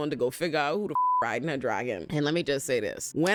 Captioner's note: beep